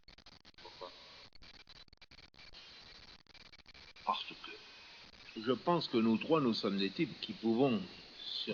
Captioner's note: silenzio